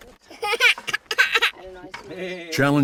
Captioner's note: laughs